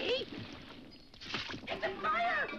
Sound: water splashes

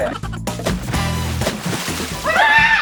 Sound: splashing soup

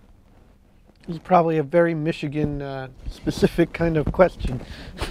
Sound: chuckle

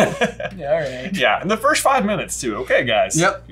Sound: laughs

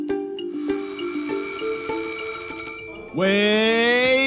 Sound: alarm bell

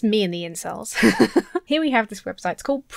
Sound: laughs

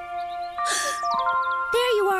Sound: gasps

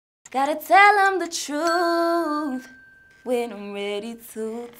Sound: bell dings

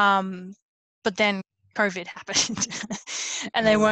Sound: laughs

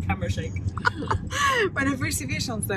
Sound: laugh

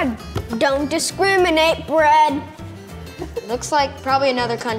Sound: giggling

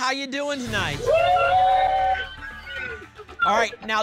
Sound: cheering

